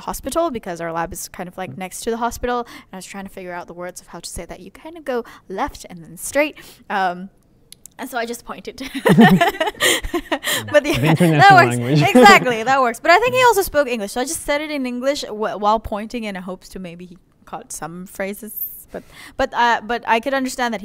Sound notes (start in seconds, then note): 8.8 laughter